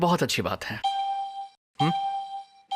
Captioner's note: alarm beeping